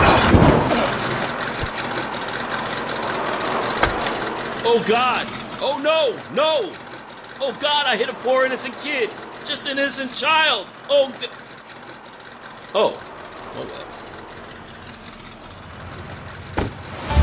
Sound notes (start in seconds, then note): 0.1 car banging; 1.6 car engine whirs; 11.4 car engine whirs; 14.3 car engine whirs; 16.4 car door clicking closed